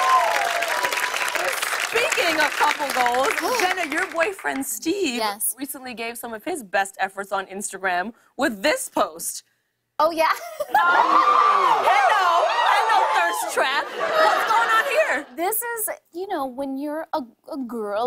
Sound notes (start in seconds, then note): 0.0 cheers and applause; 10.4 laughing; 10.7 cheering